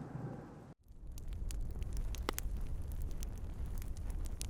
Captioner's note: fire crackling